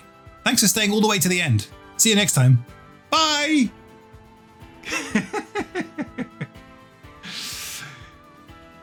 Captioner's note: laughs; gentle music